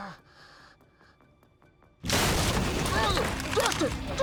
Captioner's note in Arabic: يُفتح الباب